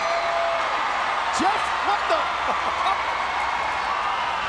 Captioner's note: spectators cheering; Jerry chuckling; spectators cheering